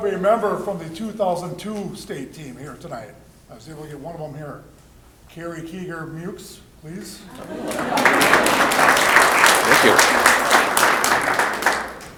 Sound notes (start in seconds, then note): 7.3 applause